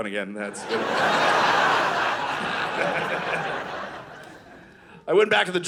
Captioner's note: audience laughing